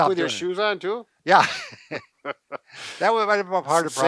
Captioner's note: chuckles